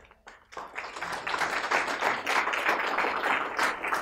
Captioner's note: applause